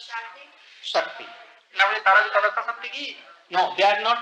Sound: Hindi

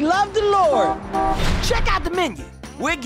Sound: horn honks twice

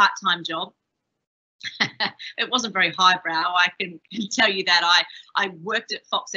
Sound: chuckles

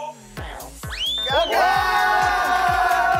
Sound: cheers

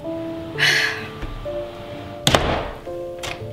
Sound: exhales

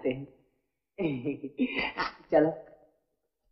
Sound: chuckles

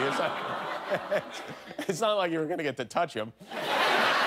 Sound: audience moaning

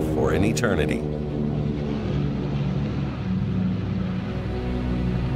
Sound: airplane engine roaring

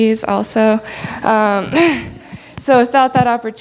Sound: laughs

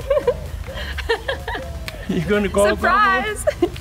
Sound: laughs

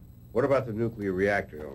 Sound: none

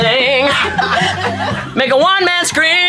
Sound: performers laughing

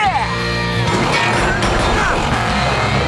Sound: grunting

